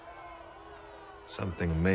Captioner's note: crowd jeering